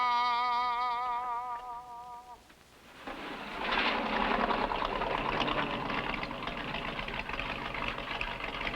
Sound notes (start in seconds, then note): 2.8 engine rumbling